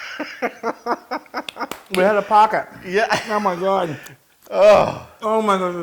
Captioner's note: laugh